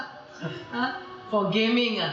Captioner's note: laughter